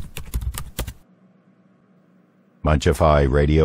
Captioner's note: typing